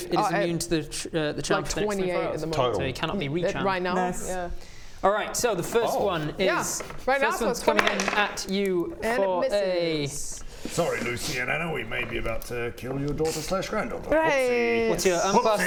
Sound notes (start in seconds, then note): none